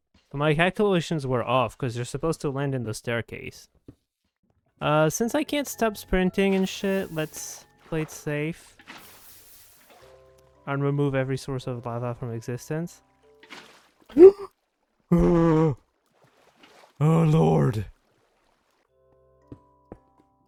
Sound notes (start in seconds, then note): 14.2 gasp; 15.1 chewbacca noises